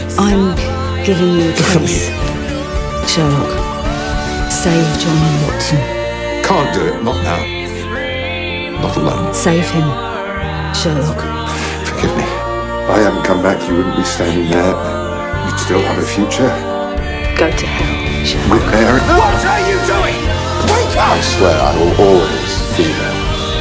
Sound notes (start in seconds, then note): 19.1 yelling